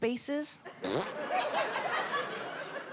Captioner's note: makes fart sound; audience laughs